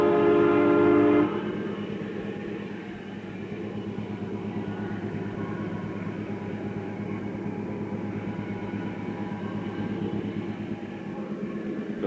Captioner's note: sound of train moving